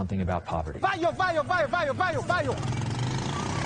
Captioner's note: yelling direction to actors; ATV rumbling